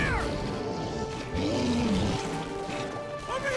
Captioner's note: sphinx roaring